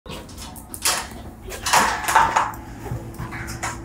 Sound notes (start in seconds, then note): 0.2 dog rustling